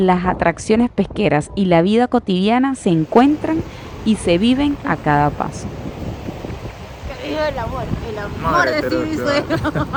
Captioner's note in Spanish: risas